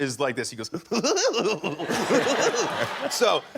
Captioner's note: makes giggling noise